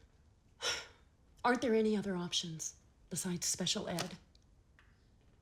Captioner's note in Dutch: zucht